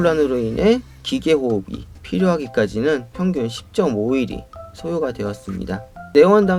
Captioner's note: mechanical ventilation